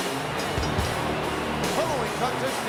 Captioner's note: bell rings